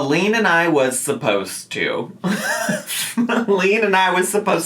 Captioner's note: laughing